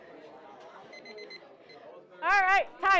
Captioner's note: children chattering; timer beeps